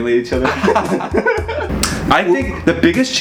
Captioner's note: laughing